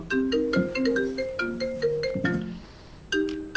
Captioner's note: phone rings